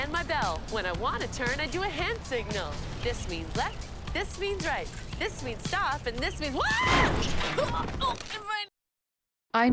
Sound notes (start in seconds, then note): 0.1 singing; 6.6 screaming; 6.7 loud crash